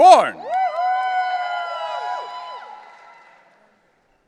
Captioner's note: audience cheering